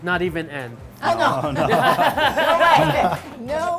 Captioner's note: laughing